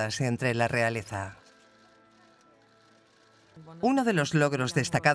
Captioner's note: cameras clicking